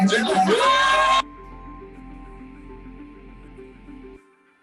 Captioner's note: cheering